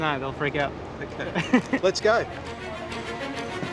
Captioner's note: laughs